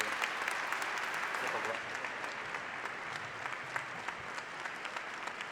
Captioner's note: applause